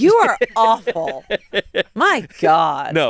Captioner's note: laughs